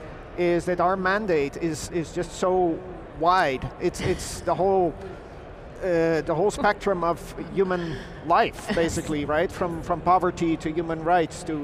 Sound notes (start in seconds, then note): 6.3 panelist chuckles